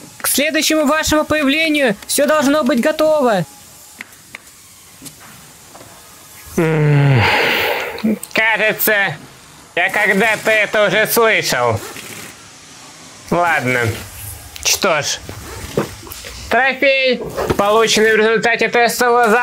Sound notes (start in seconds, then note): 6.6 evil chuckle